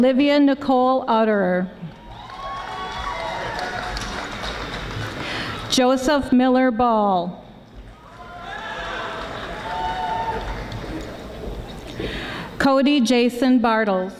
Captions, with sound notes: Olivia Nicole Auderer. (audience applauding softly) Joseph Miller Bahl. Cody Jason Bartles.